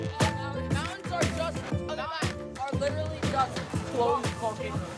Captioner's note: students chattering